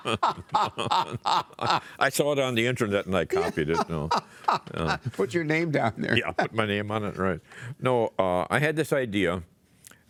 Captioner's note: laughter